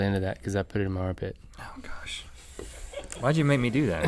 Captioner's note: crew laughs